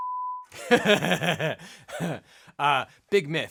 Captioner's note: laughs